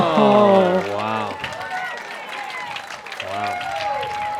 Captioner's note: applause